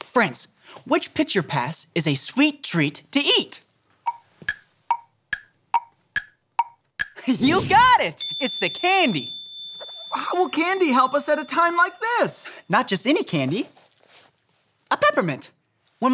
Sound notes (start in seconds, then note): 4.2 clock ticking